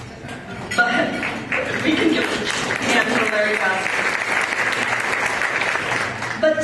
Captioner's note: applause